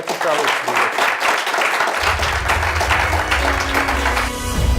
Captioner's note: applause